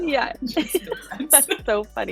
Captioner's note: laughing